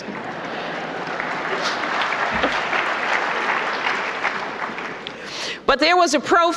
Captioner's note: applause